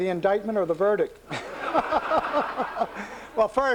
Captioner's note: laughter